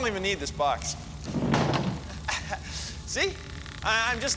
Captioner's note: laughs